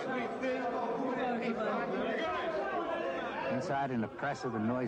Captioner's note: indistinct chatter